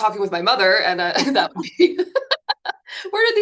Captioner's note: laughing